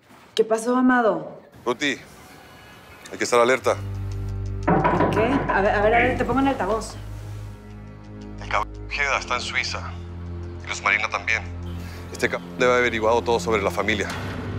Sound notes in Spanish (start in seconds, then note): 4.6 Toques en la puerta